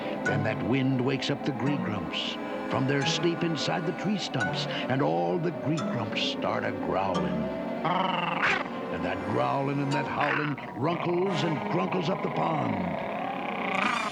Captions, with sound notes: When that wind wakes up the Gree-Grumps from their sleep inside the tree stumps. And all the Gree-Grumps start a-growling. [ALL GROWLING] And that growling and that howling runkles and grunklies up the pond.